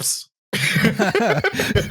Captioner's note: laughter